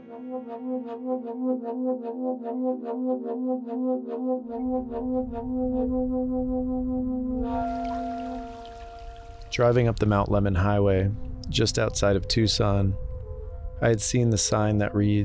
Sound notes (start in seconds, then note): 0.0 loud horn music begins; 7.4 water flowing